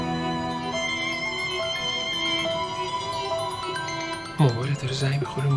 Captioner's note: mobile ringing